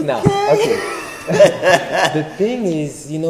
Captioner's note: both laugh